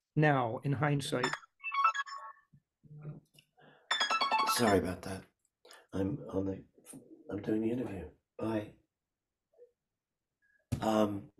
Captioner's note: phone rings